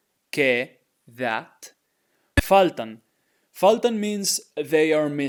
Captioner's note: speaking in Spanish